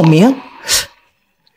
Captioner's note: gasps